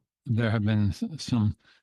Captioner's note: speaking in French